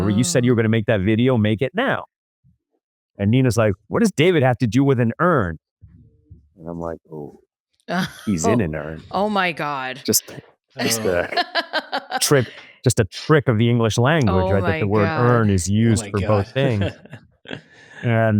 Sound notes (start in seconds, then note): 8.0 laughs; 14.1 laughs